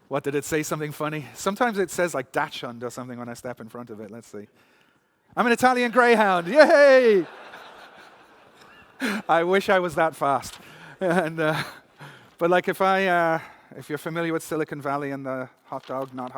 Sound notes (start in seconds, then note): 6.5 laughter